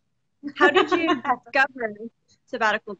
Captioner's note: laughs